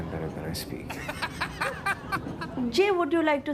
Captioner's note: Jimmy laughs